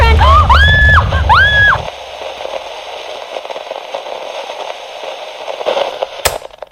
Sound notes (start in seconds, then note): 0.1 gasps and screams; 2.4 static